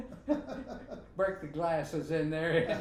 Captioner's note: both laughing